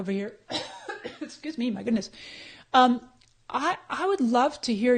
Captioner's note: coughs